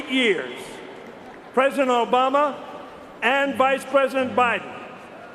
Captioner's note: applause